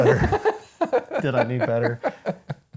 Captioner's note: laughing